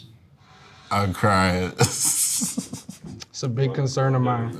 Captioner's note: laughs